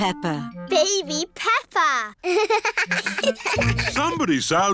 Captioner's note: both laugh